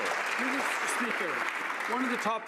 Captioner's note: some Applause